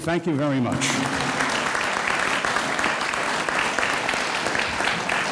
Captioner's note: audience applauds